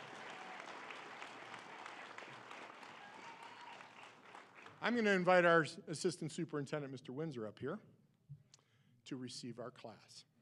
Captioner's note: cheering and applause